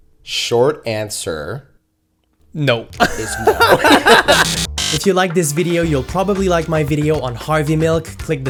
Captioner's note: laugh